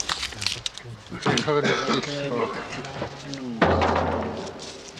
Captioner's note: non-english speech